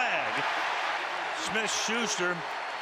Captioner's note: cheering